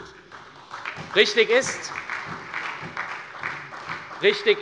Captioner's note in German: Beifall bei der SPD